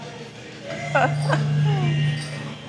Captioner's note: laughs